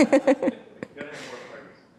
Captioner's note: laughs